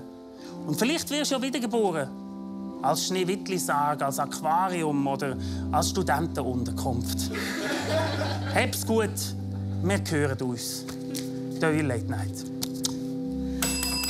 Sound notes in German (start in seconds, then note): 7.3 lachen; 12.6 Kussgeräusch